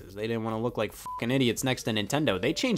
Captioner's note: beep